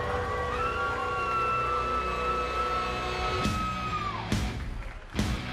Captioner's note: cheers and applause